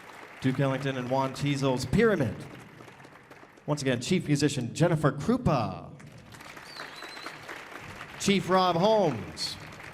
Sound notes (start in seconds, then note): 6.1 audience applauding